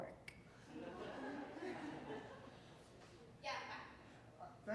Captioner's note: audience laughing